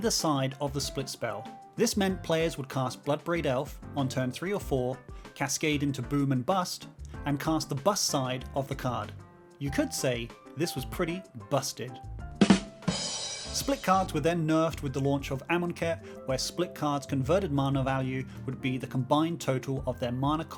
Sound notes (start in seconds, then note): 12.3 laugh track, squee drum gif